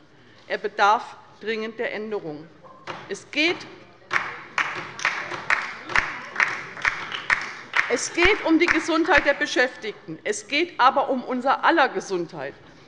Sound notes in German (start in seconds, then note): 4.1 Beifall bei der LINKEN